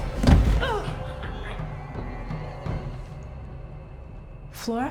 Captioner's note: Claire thuds